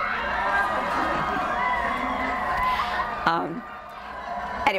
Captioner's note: audience laughter